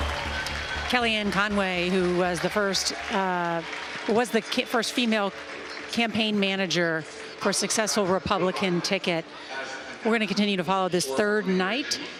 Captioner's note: cheering and applause